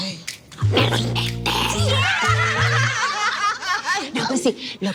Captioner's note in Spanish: Risas